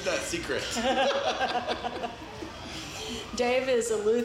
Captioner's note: laughs